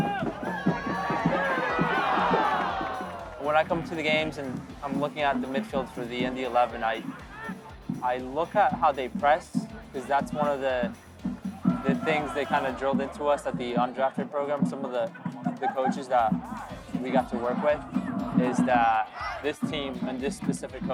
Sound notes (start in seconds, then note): 6.8 crowd shouting